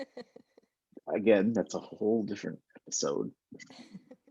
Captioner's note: both laughing